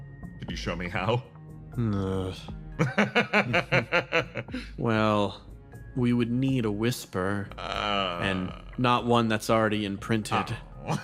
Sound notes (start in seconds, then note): 2.8 laugh; 10.8 laugh